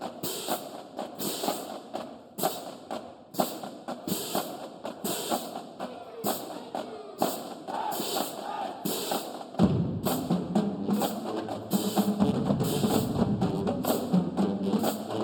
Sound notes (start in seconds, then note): 0.2 upbeat band music continues; 7.6 band cheering; 11.3 upbeat band music continues